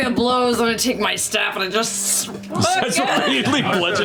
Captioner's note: groans